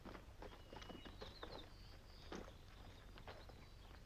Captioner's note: birds chirping